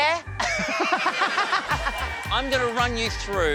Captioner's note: laughs